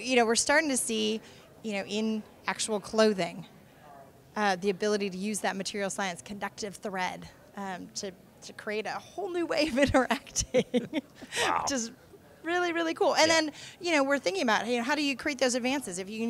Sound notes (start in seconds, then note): 10.3 laughs